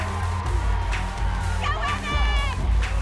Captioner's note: cheering